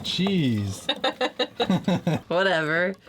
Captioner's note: both laughing